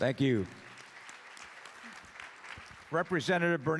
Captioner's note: applause